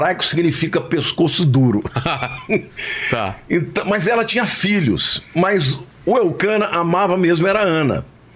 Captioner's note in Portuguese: risadas